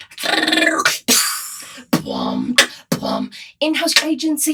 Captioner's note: beatboxing